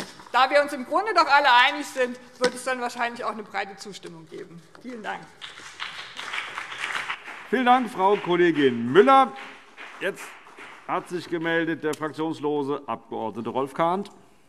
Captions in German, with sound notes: Da wir uns im Grunde doch alle einig sind, wird es dann wahrscheinlich auch eine breite Zustimmung geben. - Vielen Dank. [Beifall BÜNDNIS 90/DIE GRÜNEN und vereinzelt CDU] Vielen Dank, Frau Kollegin Müller. - Jetzt hat sich der fraktionslose Abg. Rolf Kahnt gemeldet.